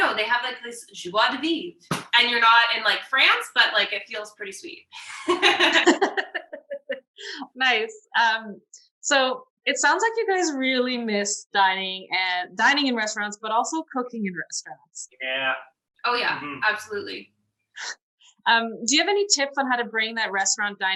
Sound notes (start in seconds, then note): 5.0 laughter